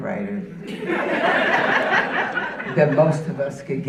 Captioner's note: audience laughing